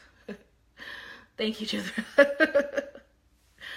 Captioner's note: laughs; laughs